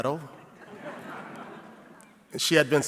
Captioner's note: audience laughing